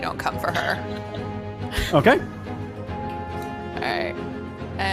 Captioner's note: laughs